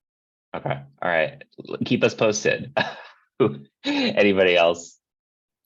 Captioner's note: laughs